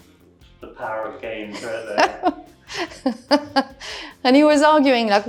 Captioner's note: laughter